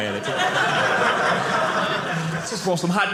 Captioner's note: audience laughing